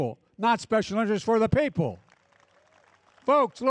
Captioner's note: applause